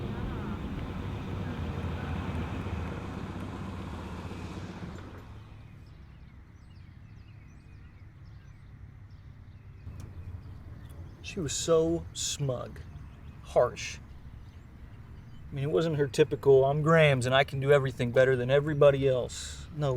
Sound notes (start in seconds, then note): 5.9 birds chirping